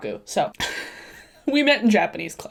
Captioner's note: chuckles